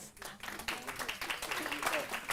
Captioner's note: audience clapping